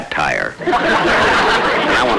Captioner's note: audience Laughing